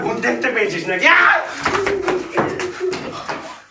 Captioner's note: screams